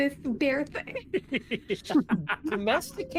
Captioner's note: laughing